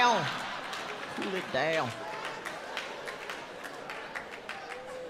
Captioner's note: audience laughs